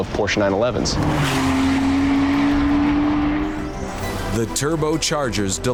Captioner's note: car engine accelerating